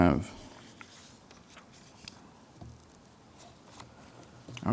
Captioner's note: pages flipping